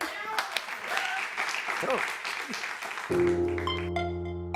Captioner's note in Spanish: Aplausos